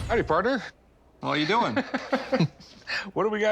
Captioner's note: laughs